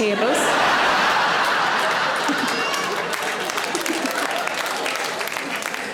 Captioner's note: audience laughing; audience applauds